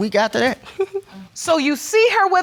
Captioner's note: laughing